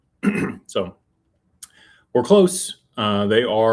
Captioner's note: clears throat